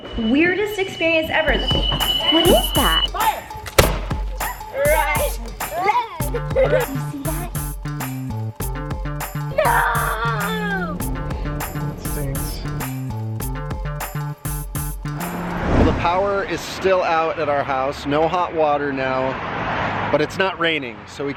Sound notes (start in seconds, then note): 1.7 alarm blares; 3.8 musket discharges; 6.7 energizing music